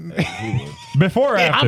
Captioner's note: laughing